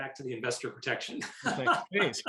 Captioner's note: laughing